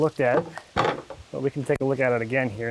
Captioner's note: bucket clanging; water splashing